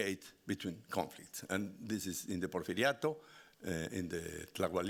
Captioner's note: speaking Spanish